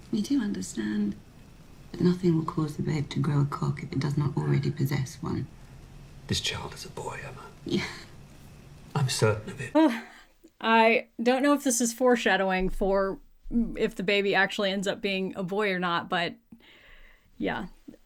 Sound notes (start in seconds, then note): 7.7 chuckling